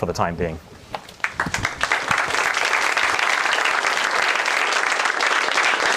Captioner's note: applause